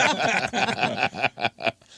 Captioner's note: laughing